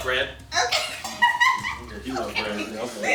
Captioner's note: laughing